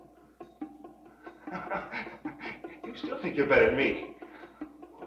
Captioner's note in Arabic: يضحك